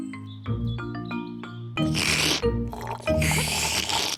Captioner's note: both slurping